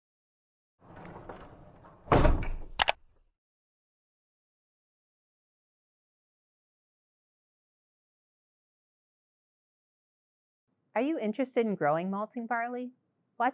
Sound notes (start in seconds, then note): 2.8 intro clicking